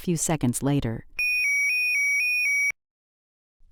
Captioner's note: siren alarm